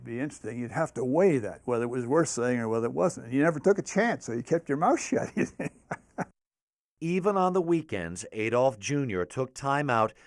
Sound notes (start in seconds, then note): 4.9 laughs